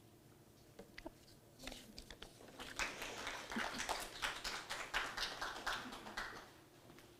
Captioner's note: audience applauding